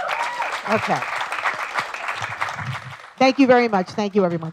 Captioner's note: applause